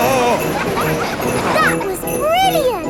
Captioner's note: screaming; children laughing